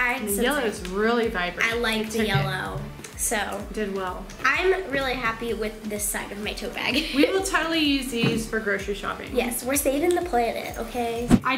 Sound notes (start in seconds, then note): 6.9 laughing